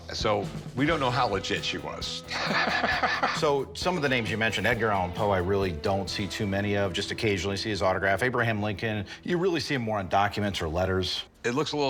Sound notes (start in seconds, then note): 2.2 laughs